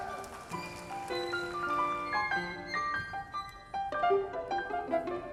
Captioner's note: audience applauding